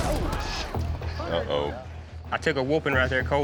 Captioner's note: thud